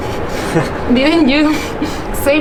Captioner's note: chuckles